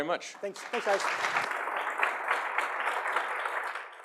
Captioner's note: applause